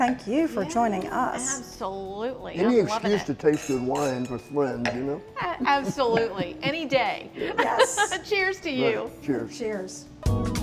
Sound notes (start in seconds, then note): 2.7 glasses clinking; 5.6 chuckles; 5.6 laughs